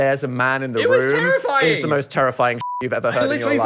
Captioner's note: beep